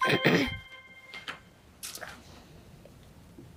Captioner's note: bell dings